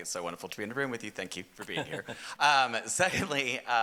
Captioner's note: laughing